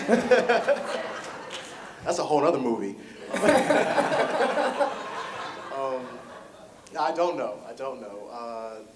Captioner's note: audience laughter